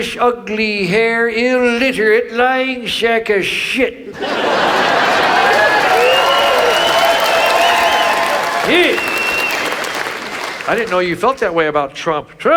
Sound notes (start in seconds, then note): 4.1 audience laughs; 5.9 audience applauds